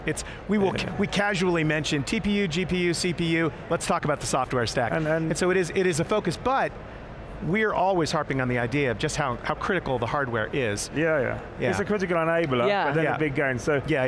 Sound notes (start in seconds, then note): none